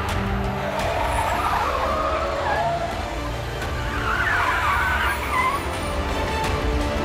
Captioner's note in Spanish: Chirrido de llantas